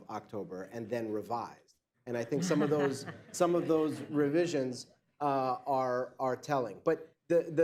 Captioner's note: laughter